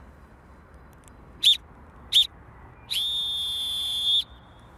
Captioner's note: he blows whistle